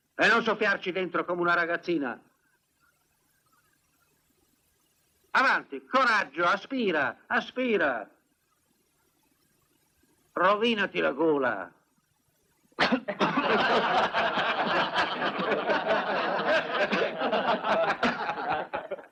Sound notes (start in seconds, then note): 12.8 coughs; 12.8 laughing